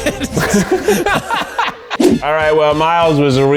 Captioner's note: both laughing